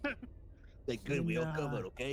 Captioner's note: laughs